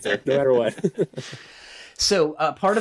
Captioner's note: chuckles